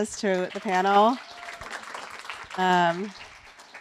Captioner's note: applause